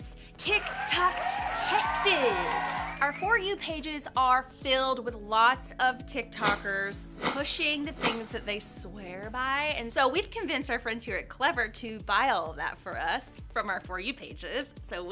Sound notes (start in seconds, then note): 0.5 crowd cheers; 6.4 air whooshing